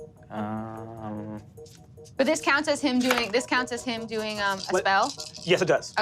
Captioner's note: none